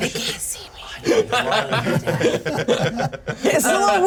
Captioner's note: laughs